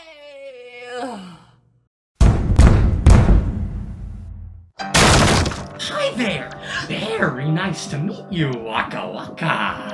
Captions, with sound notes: *Banging on the door* *Crash* MONOKUMA Hi there! BEAR-y nice to meet you! Wokka wokka!